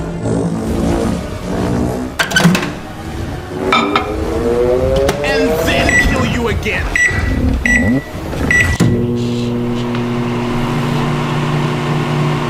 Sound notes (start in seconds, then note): 1.3 microwave sounds; 6.8 microwave beeping